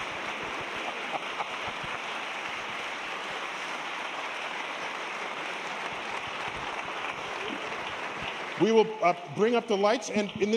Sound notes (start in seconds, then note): 2.6 applause